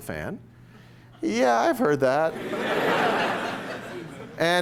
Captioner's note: laughter